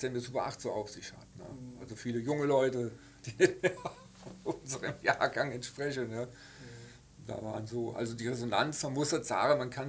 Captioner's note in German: lacht